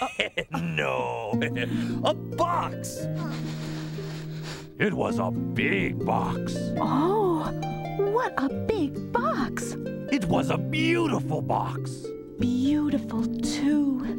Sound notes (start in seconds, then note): 4.0 continues reading